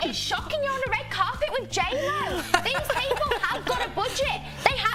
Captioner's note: laughter